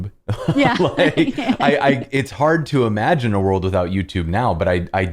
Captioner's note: laughter